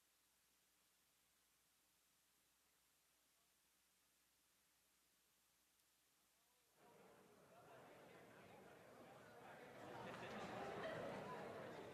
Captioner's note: speaking French